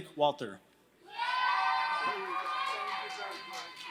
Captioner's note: applause